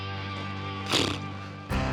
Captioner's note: blows raspberry